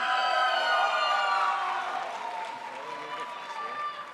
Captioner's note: crowd applauds